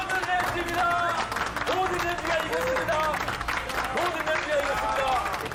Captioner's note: everyone stands up and applauds